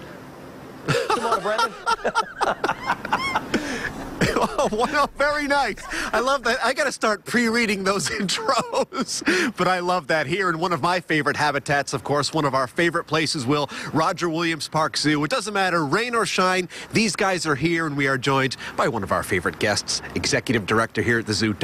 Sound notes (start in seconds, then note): 6.0 laughter